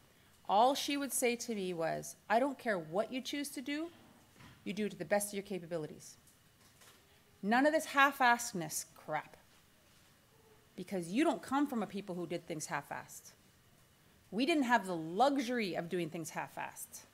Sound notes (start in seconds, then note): none